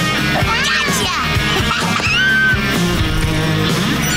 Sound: laughing

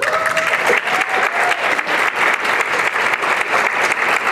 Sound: applause and cheering

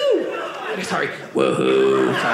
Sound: robotic voice

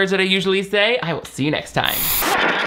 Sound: static hisses

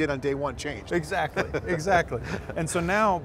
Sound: laughs

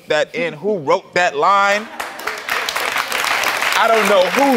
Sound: audience clapping

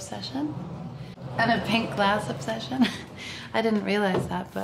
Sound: laughs

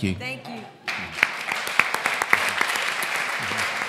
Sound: applause

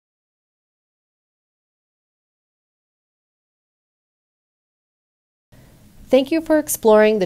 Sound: no speech present

